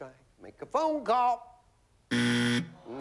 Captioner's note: buzzer